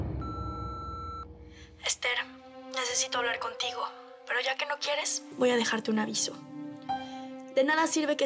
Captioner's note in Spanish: Bip